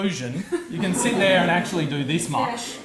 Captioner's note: audience laughs